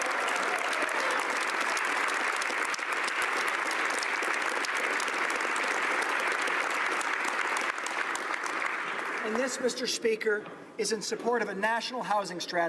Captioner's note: applause